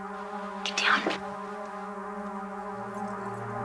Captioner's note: whispering